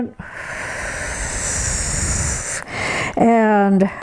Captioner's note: breathes heavily